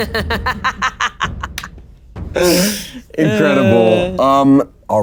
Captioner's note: players chuckling